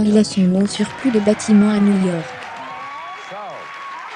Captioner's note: audience applauding